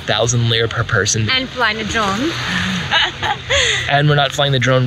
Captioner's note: laughing